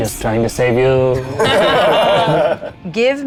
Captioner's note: group laughs